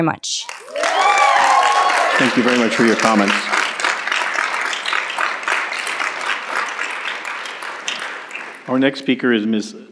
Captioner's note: applause